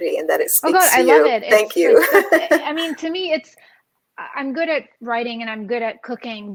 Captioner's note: laughs